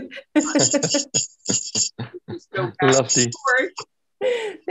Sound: laughs

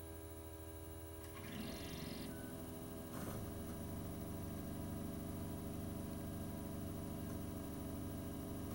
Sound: disc rapidly spins up, and typical DVD-seeking sounds are now heard

